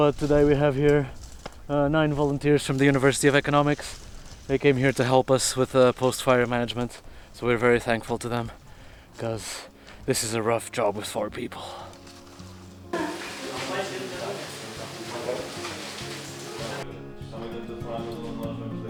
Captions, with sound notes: But today we have here nine volunteers from the University of Economics. They came here to help us with the post fire management. So we're very thankful to them because this is a rough job with four people. (speaking in foreign language)